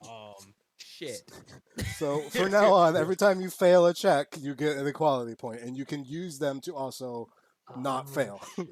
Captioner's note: laughs